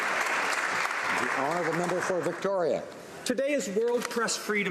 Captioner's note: some Applause